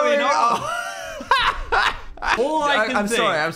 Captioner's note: Dan laughs